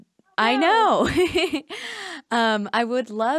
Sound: laughs

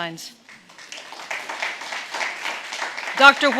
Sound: audience clapping

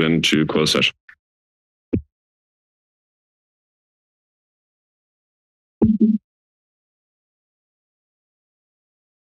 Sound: silence

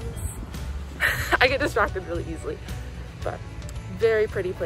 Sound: laughs

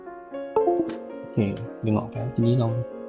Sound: USB cable disconnected sound

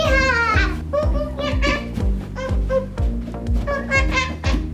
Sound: makes monkey noises

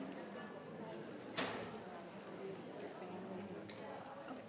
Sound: people chattering

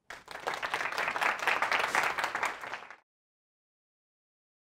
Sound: crowd applauds

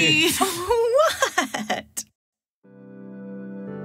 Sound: laughing

